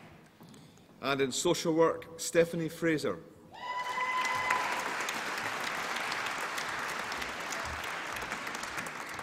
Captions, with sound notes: And in Social Work... Stephanie Fraser. (APPLAUSE AND CHEERING)